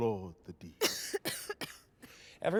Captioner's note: coughing